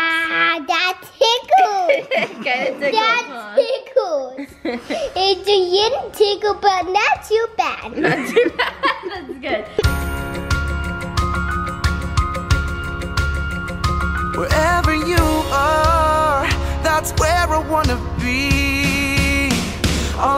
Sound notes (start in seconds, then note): 1.5 laughs; 7.9 laughs; 10.4 upbeat music